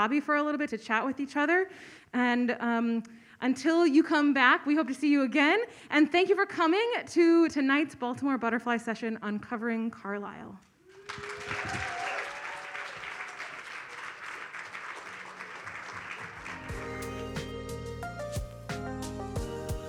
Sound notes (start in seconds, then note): 10.9 audience applauds; 16.4 upbeat music